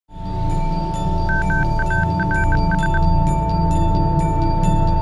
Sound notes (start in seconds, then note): 1.2 beeping